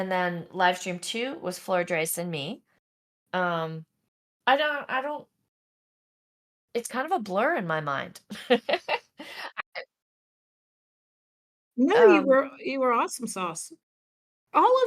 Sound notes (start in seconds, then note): 8.6 laughs